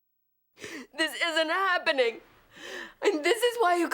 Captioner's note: sobbing